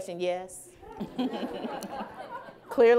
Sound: laughing

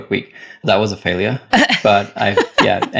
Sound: laughs

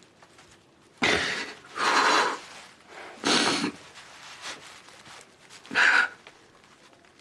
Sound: Aaron takes shaky breaths

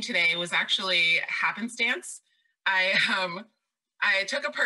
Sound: laughs

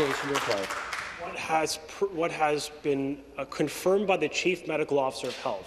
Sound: some Applause

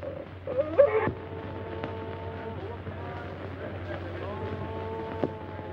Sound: chanting in foreign language

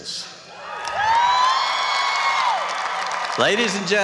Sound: applause and cheering

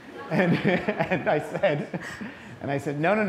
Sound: laughter

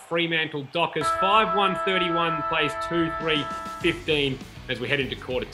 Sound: siren

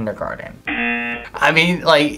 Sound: buzzer rings

